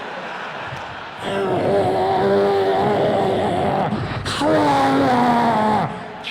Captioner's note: roars and yells